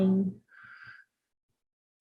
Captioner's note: exhales